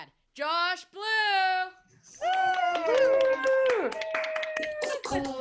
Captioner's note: all cheering and clapping